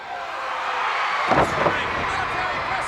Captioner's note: crowd cheers